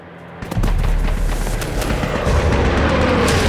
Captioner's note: explosions pop